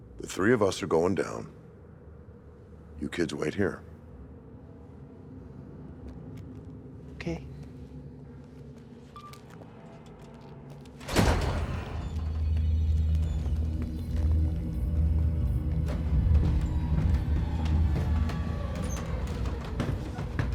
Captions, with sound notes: - The three of us are going down. You kids wait here. - Okay. (door squeaks) (eerie music) (stairs squeaking)